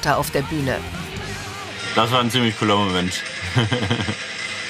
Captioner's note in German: lachend